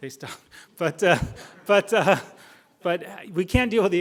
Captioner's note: crowd laughing